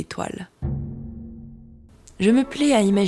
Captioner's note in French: bruit de gong final